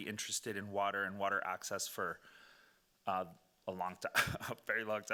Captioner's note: laughing